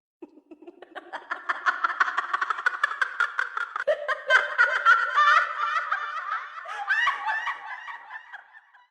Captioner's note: the wicked fairy continues to laugh